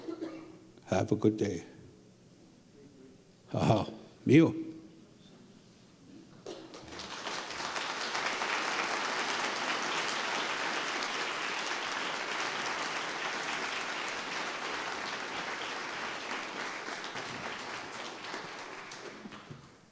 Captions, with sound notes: have a good day. Aha! (speaking Ojibwe) (applause)